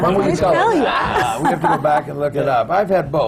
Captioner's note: laughs